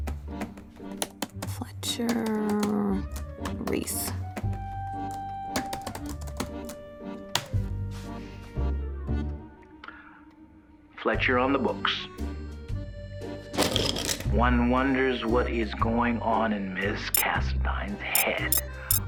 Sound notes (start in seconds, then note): 1.2 typing; 13.7 pencils rattle; 17.7 comments start beeping in